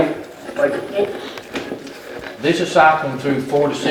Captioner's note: radio changing channels